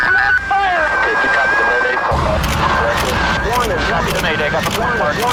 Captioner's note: radio chattering